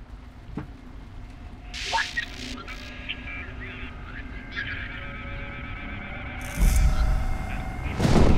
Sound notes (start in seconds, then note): 3.3 radio static